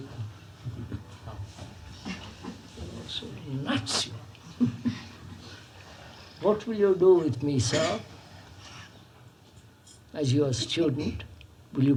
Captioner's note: laughs